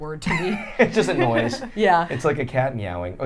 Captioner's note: laughing